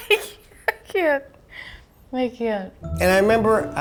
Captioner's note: laughs